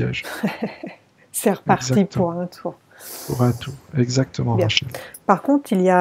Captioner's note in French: rires